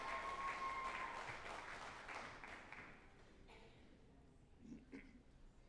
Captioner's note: group applauding and cheering